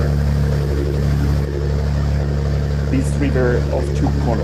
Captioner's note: boat engine roars